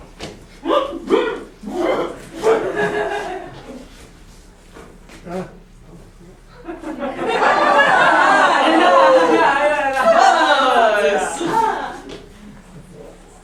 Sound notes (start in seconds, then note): 1.6 muffled screaming; 7.2 sailors exclaiming in grammelot